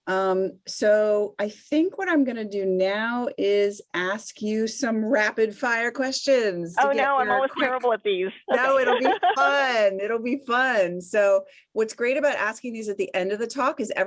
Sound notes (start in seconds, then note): 6.8 laughs